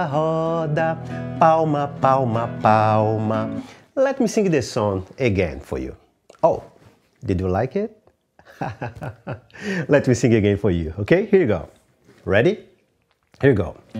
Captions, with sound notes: Let me sing this song again for you. Oh, did you like it? (laughs) Let me sing again for you, okay? Here we go. Ready, here we go.